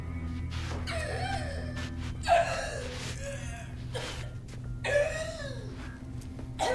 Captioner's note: Wilhelmina gasping and coughing